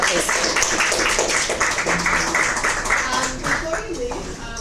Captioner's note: audience applauds